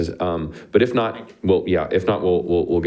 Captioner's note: speaking faintly